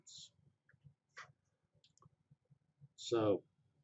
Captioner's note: pause